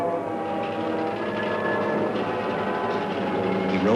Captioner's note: ominous music; tram car rattling